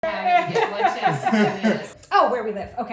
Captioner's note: laughter